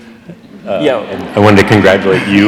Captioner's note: audience laughs